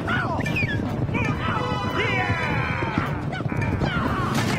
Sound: horse hooves trotting; William and Frank yelling

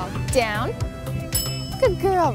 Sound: bell dings

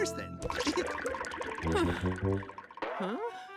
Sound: sighing

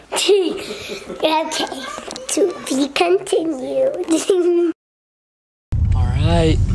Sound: laughs; laughs

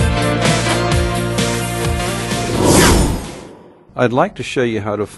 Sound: whoosh

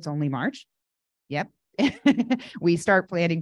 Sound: laughing

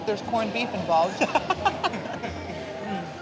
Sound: laughs

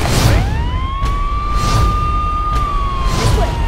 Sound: sirens ringing

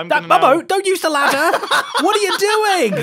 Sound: laughs

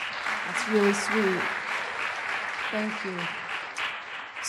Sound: audience applauds

